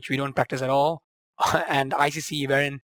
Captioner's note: laughs